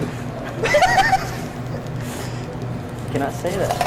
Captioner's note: students laugh